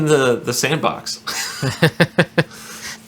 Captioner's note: laughing